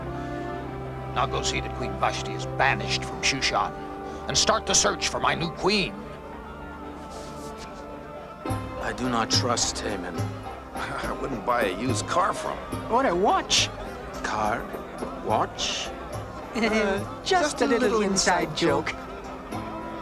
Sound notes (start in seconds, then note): 16.4 chuckling